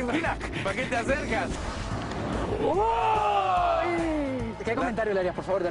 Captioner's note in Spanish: risas